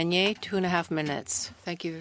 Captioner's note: speaking French